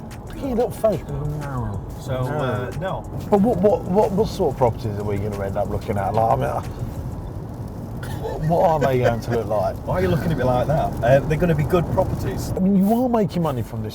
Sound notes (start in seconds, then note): 8.0 laughing